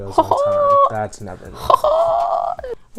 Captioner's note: hahaha